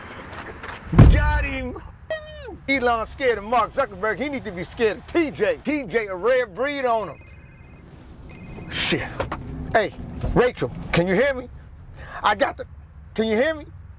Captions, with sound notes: (door smacks) Got him. Woo! Elon's scared of Mark Zuckerberg. He need to be scared of TJ. TJ a rare breed on 'em. (phone rings) Shit. Hey, Rachel, can you hear me? I got the, can you hear me?